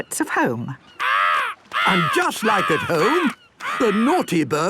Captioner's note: seagull cries